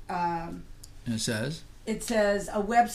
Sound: voiceover

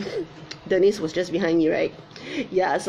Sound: giggles

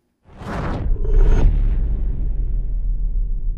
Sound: air rumbling

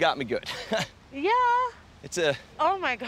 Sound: chuckles

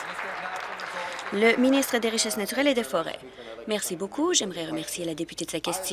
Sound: applause

